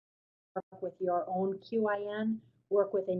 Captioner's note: voiceover